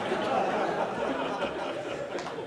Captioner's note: laughing